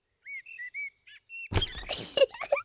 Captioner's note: birds chirping; giggles